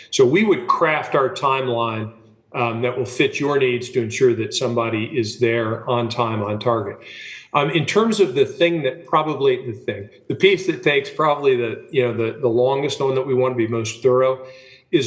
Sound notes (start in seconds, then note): 9.8 laughing